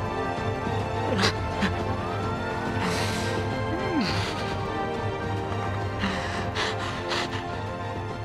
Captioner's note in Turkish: Ağlıyor